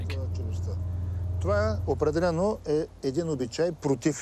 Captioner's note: speaking Bulgarian